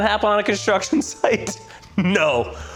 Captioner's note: laughs